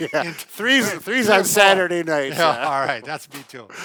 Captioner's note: laughs